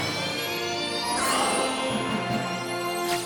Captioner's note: tinkling